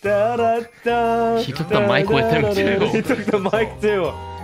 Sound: laugh

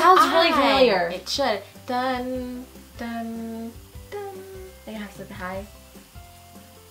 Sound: hums

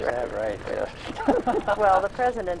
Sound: laughs

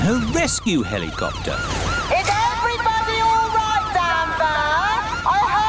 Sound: over megaphone

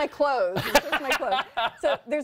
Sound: laughter

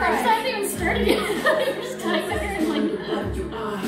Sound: laughter

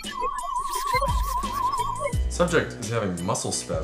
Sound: SFX: Sci-fi scanning noise

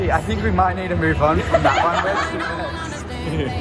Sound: laughter

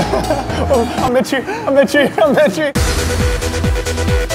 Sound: mockingly

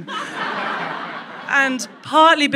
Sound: crowd laughs

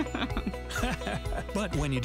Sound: fungoid laughing

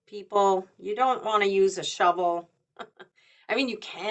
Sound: chuckles

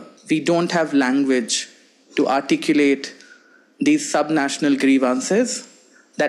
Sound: none

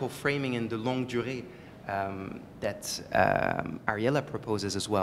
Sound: french

